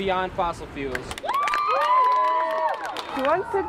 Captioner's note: kalabalık tezahürat ve alkışlar